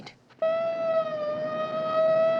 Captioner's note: siren wailing